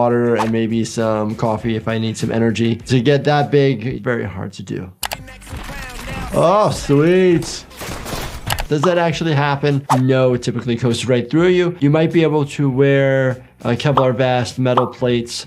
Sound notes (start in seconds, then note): 4.9 funky songs plays; 5.1 key clacks; 5.4 gunshots firing